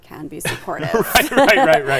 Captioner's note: laughing